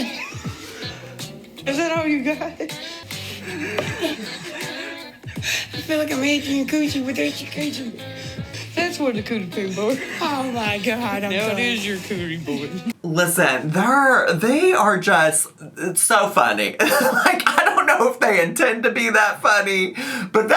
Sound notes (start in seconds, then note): 0.0 laughing; 3.7 board thuds